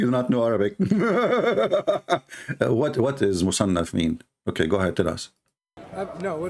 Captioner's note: Ketawa